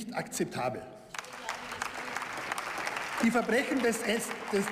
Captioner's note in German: Beifall